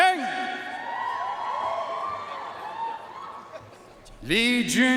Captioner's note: audience cheering and applauding